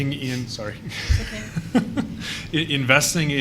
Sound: laughs

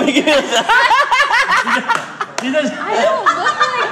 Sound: laughter

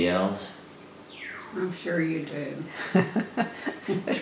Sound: laughter

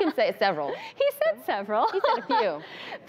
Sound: laughing

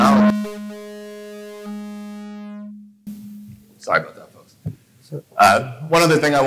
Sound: buzzing sound

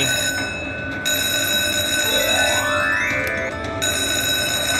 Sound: ringing

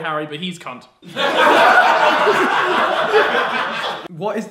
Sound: audience laughs

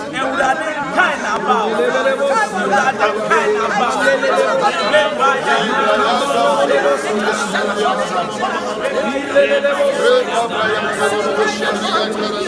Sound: praying in diverse tongues

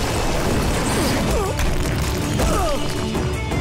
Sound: grunting

